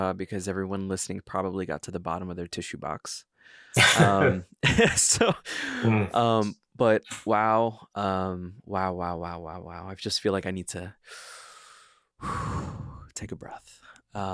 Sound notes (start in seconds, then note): 3.8 laughing; 11.0 inhales deeply; 12.2 exhales sharply